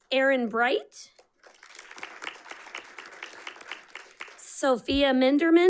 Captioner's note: audience clapping